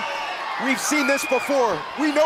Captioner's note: crowd cheering